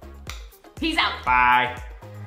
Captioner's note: kiss sound